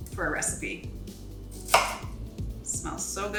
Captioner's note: knife thudding